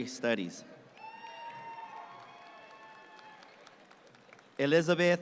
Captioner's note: audience cheer and clap